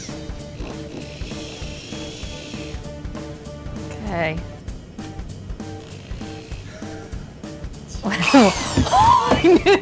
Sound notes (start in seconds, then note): 0.4 drill whirring; 8.2 drill whirs loudly